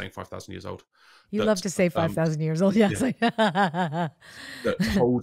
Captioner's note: laughs